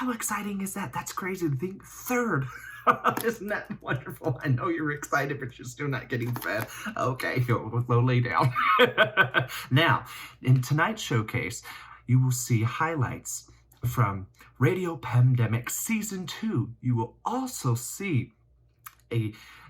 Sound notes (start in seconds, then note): 3.2 laughs; 8.8 laughs